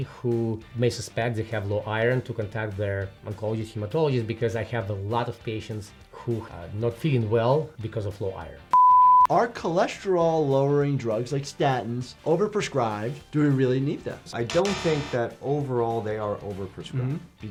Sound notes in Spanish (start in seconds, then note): 8.7 suena un pitido